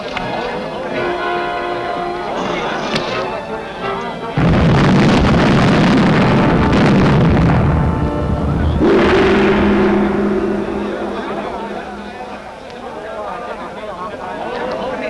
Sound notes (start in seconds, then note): 4.4 roaring Fire